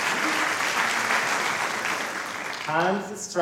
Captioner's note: applause